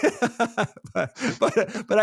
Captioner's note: laughs